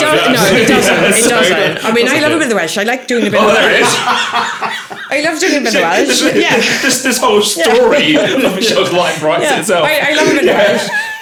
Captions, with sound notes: It doesn't, no, it doesn't. It doesn't. I mean, I love a bit of Welsh I like doing a bit of that. Oh, there it is. (laughing) I love doing a bit of Welsh This whole story of life writes itself. I love a bit of Welsh